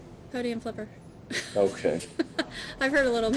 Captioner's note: laughs